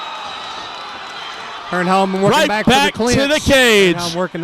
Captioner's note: crowd noise